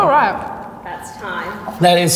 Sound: timer rings

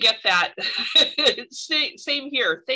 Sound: laughter

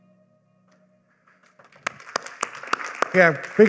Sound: applause

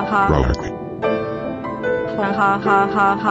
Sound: low growling

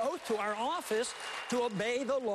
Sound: applause

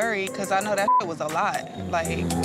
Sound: beep

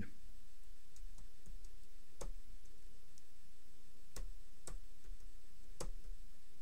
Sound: clicking

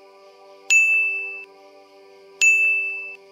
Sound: chimes

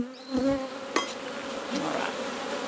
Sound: bees buzzing

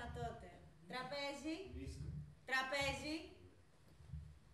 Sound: replies in Bulgarian

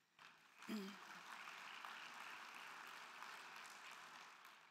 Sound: crowd clapping

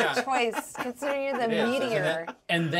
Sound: speaker laughs

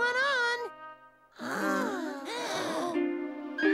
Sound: frightened gasps

